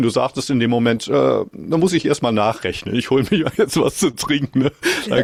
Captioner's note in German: gelächter